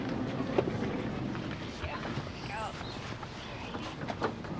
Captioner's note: birds chirping